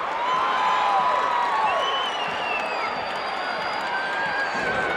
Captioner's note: audience cheering